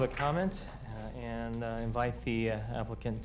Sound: applause

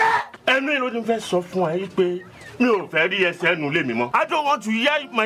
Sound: speaking in foreign language

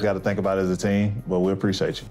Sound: none

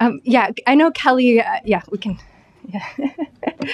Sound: chuckling

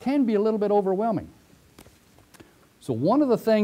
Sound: pause

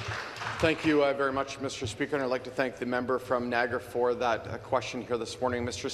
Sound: some Applause

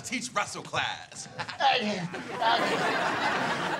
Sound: groaning

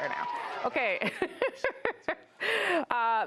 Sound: cheering

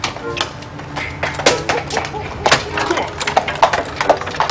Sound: dog barking in distance

